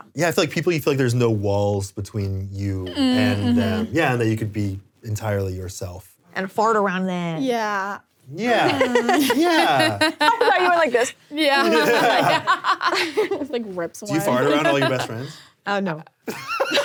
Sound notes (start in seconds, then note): 11.6 laughs